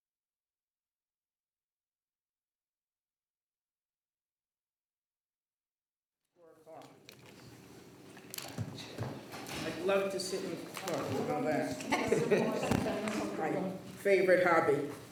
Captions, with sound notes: (members chattering softly) >>I'd love to sit and talk about that. My favorite hobby.